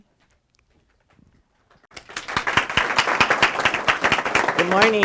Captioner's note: applause